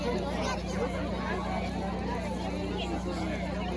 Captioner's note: crowd talking, metal chairs setting up